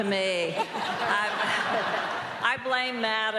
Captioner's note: all laughing